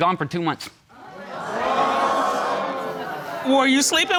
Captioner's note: audience gasps